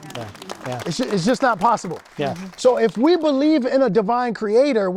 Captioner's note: audience applauding